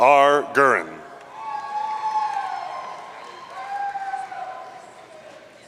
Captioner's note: audience cheering